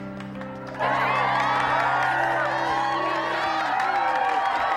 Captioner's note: cheering and applause